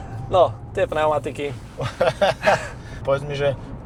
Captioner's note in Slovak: smiech